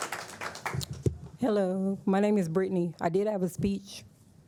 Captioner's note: applause